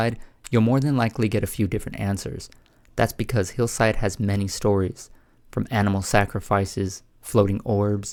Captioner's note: none